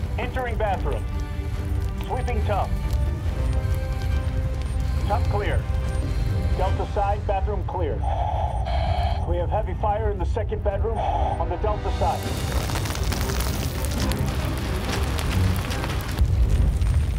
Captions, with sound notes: Entering bathroom. Sweeping tub. Tub clear. Delta side, bathroom clear. We have heavy fire in the second bedroom on the delta side. (fire crackling)